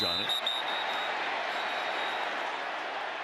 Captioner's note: whistle